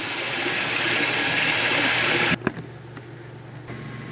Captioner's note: bathroom faucet running